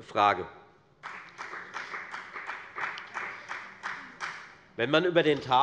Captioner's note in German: Beifall der Abg